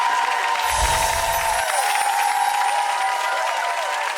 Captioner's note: audience applauding